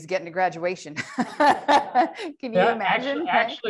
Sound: laughter

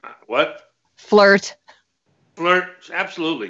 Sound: chuckles

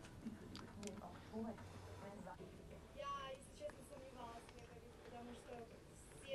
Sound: speaking in a foreign language

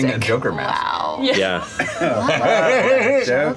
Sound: laughter

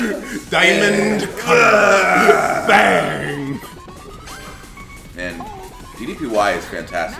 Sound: laugh

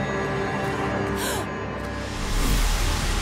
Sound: gasping

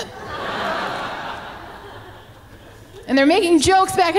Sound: audience laughing

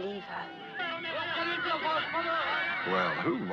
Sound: shouting

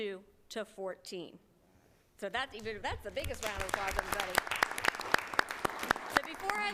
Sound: applause

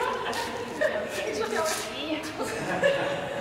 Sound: holding back laughter

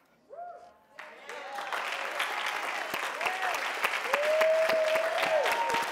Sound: applause and cheers

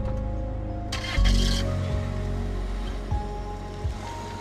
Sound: engine puttering

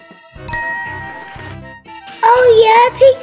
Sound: shapes ding

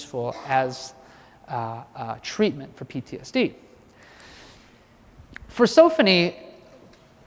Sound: cough

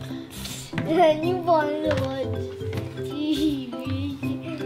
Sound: laughs

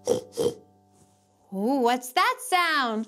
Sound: grunting

